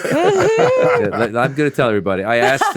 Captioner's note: all laughing